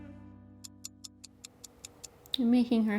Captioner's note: clock ticks